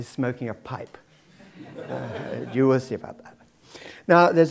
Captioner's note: laugh